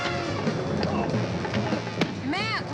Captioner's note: grunting